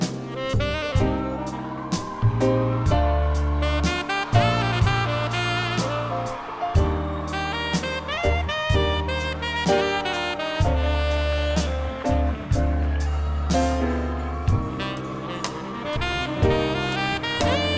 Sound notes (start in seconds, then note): 2.3 audience cheering; 2.3 soft uptempo music